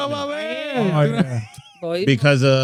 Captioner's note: speaking In Foreign Language